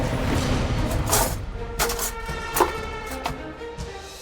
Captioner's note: utensils rattling